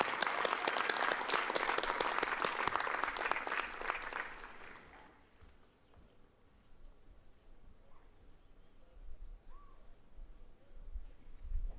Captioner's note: applause